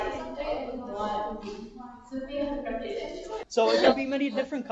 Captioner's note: several voices off screen; voice off screen